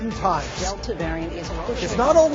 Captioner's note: reporters speaking in unison